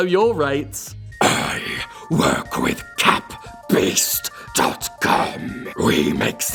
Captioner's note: demonic beast voice